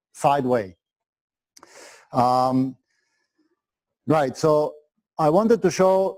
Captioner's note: pause